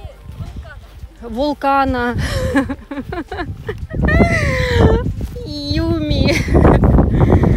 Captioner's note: laughter